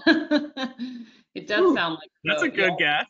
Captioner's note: laughs loudly